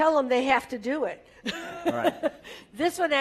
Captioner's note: laugh